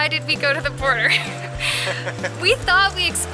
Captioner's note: laughing